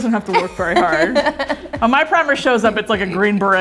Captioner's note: laughing